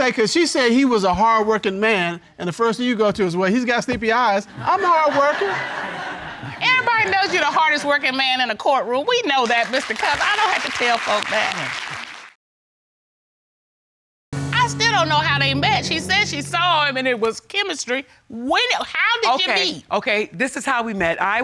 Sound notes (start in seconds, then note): 4.4 audience laughs; 9.4 applause